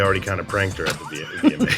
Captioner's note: laughter